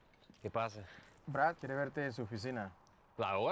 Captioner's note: ambos hablan español